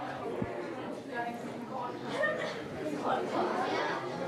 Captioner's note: people chattering